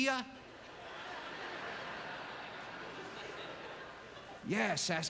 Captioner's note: audience laughter